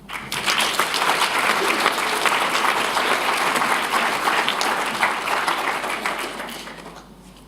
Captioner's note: applause